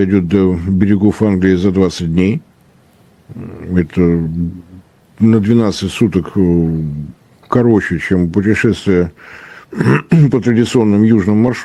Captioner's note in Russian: откашливается